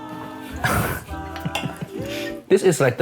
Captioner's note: chuckling